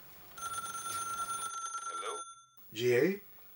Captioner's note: phone rings